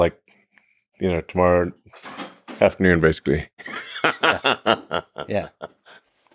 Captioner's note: laughs